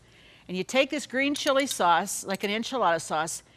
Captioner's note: none